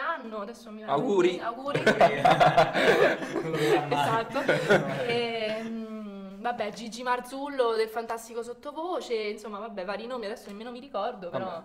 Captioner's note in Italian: Risate